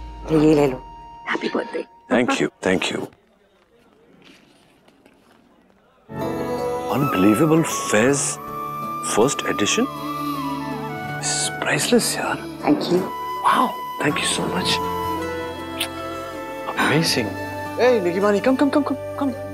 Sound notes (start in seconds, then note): 15.7 kisses